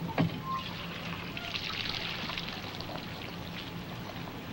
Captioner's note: water splashing